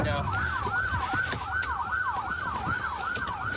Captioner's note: sirens blaring